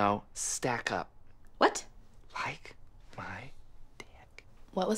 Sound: whispers

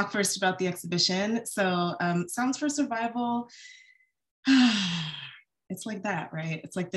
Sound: sighs

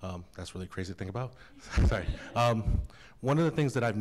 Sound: laughter

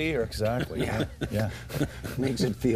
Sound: laughter

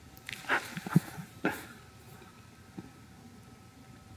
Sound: Eckhart laughing

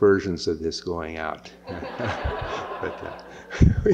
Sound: laughter

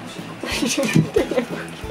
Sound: laughs

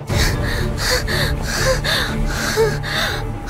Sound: gasp

